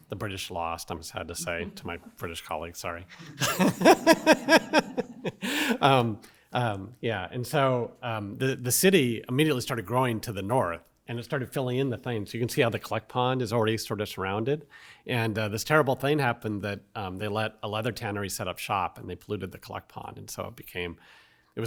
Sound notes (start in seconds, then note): 3.1 laughs